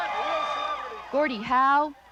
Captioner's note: cheering